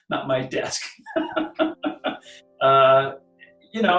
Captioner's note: laughing